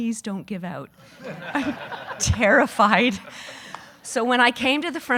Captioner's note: audience laughing